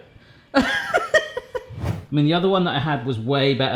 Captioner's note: laughing